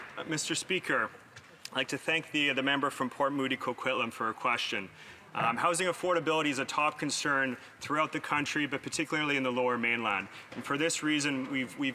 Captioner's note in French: voix de l'interprète